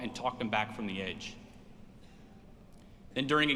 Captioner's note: none